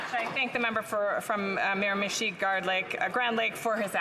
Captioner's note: some Applause